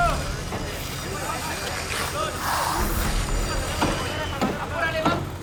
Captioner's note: hammers hammering; saws buzzing